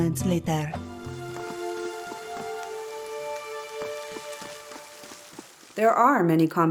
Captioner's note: me with a bad accent; sad, orchestral music; rainfall